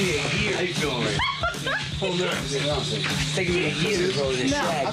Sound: girl giggling

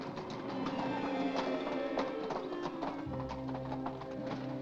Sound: hooves trotting; ominous music

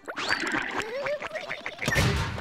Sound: laughing

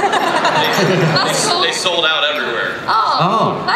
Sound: laughing; voiceover

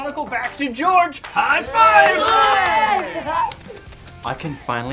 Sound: all cheering

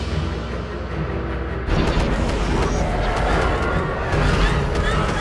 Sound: shooting

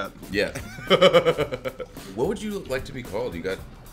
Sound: laugh

